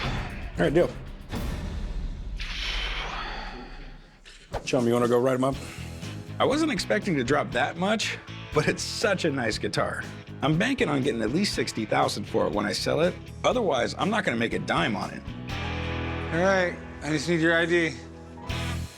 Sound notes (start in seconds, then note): 2.6 sighs; 5.2 rock music